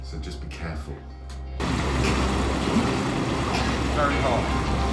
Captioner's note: water splashing